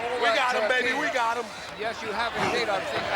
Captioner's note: blows thudding